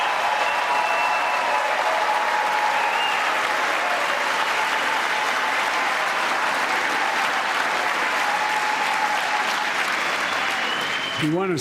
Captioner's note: cheers and applause